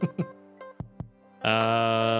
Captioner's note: laughs